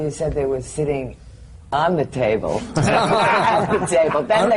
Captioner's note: laughter